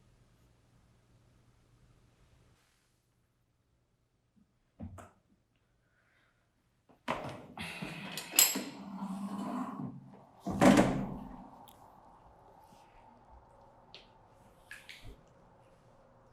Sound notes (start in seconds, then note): 7.3 rustling & Walking Sound; 12.4 ambience